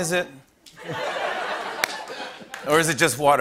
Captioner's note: laughter